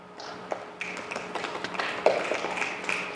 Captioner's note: snapping fingers